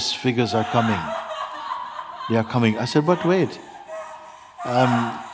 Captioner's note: screams in the background